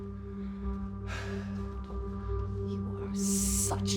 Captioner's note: Drew sighs